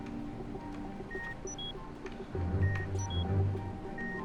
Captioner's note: machine beeping